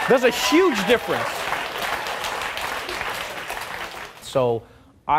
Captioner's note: audience clapping